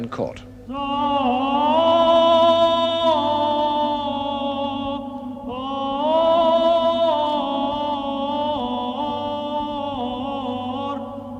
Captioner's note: chanting